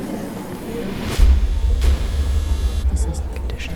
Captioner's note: soft mechanical whirring